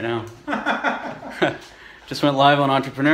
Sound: laughs

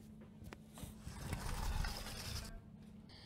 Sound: KOTONOHA opens door

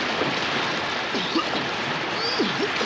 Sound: coughing and spluttering

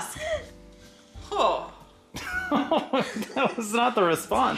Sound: exclaims

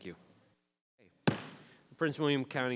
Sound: gavel bangs

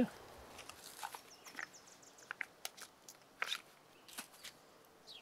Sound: forest din

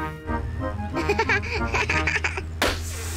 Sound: laughs; tire pops, hisses

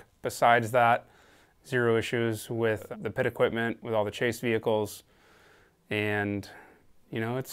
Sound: none

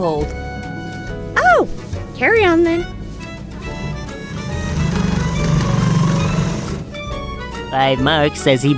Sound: chair scraping

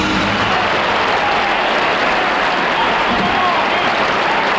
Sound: audience applauding

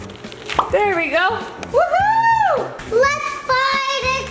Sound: cheers

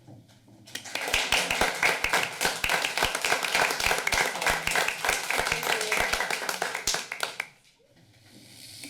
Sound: applause

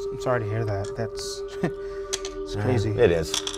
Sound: chuckles; gentle suspenseful music

